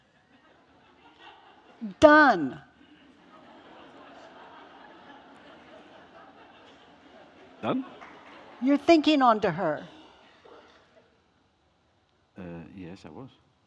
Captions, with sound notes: Done. (audience chuckling) - Done. - You're thinking on to her. - Yes I was.